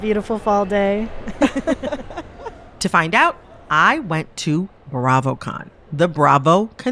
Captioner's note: laughter